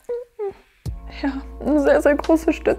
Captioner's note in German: Sie schluchzt leise